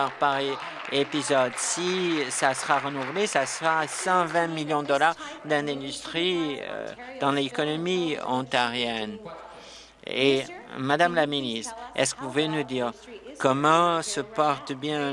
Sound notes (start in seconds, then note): 4.1 applause